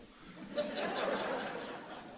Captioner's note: laughter